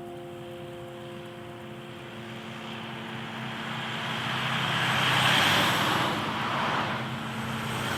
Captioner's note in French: Voiture et camion qui passent